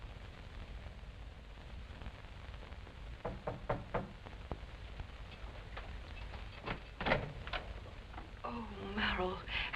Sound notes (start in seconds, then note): 3.2 knock on door